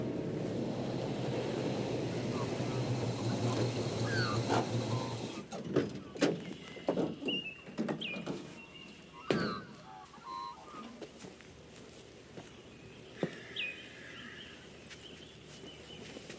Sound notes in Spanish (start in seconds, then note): 0.0 ronco do motor da van; 5.6 Pássaros cantando